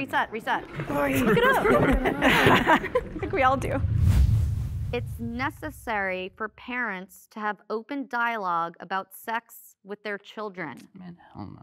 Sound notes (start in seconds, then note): 0.9 all laugh; 4.1 air quivers